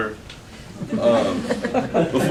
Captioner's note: laughter